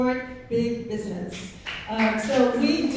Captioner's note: clapping